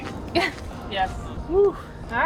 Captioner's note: laughing